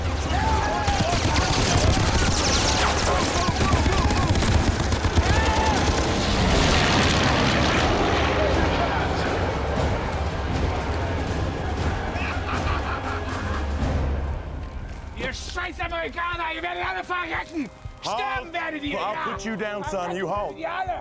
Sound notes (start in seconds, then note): 5.1 shouting in German; 15.0 speaking German